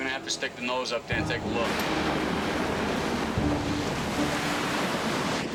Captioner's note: water splashing